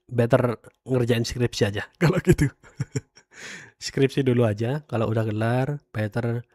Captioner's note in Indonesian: tertawa